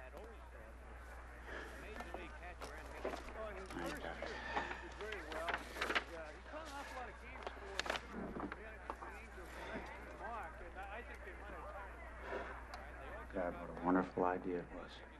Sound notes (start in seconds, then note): 11.5 sighs